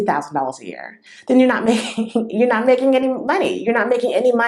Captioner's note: laughter